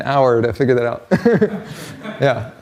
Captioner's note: laughter